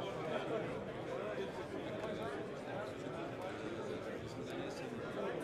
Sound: indistinct conversation

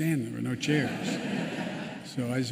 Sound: laughter

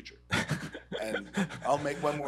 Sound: laughs

